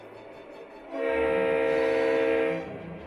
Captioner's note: train horn blares